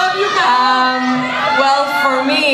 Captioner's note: audience cheering